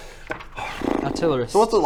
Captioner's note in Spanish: suspiro